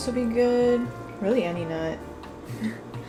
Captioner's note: laughs